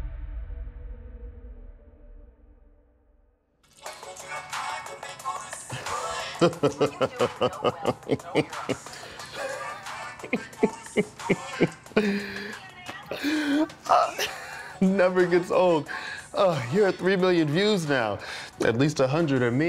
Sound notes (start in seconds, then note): 6.3 laughter